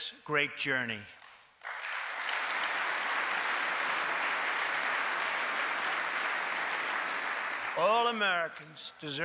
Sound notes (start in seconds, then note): 3.2 applause